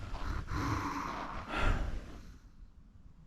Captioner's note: scared huffing